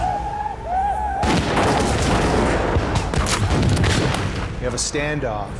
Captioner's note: firing gunshots